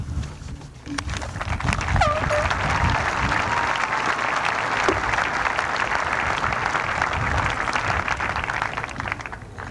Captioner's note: applause